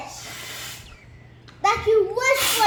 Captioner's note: blows